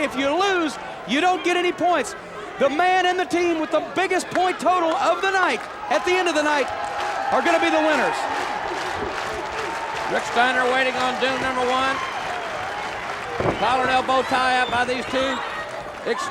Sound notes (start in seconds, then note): 8.4 audience applauds